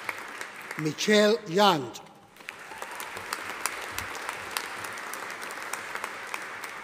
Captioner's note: audience applauding